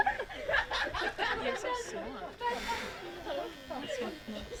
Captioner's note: blows